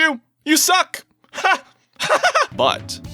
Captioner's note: laughs